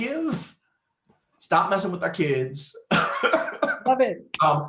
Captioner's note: laughs